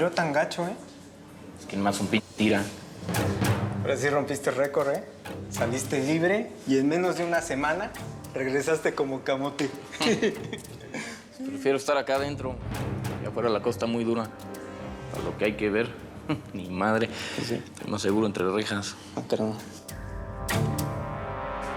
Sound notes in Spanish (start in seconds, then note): 9.9 risas